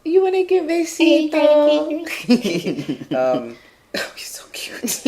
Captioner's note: laughing